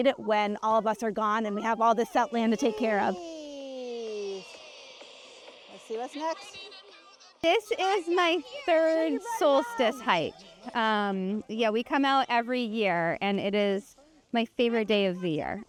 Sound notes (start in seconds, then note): 3.5 uniform chatter; 4.8 chatter